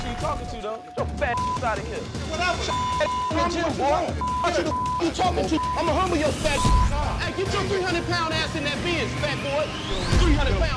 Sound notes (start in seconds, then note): 2.0 beep; 2.2 men yelling; 5.3 beep